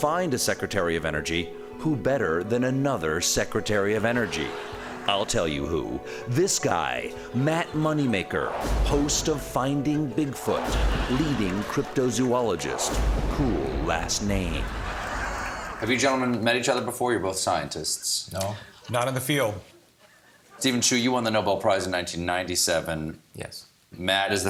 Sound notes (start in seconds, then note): 4.2 laughter